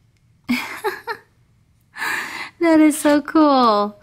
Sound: voiceover laughs; voiceover

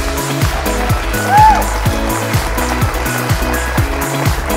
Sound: applause

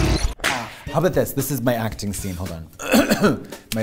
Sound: deep voices; clears throat

